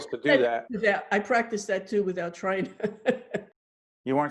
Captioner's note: laughing